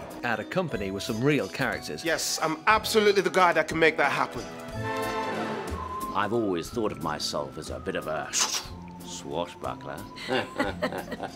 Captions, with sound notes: '...at a company with some real characters.' Yes, I am absolutely the guy who can make that happen! I've always thought of my self as a bit of a [SWISH SWISH] swashbuckler! [NERVOUS LAUGHING]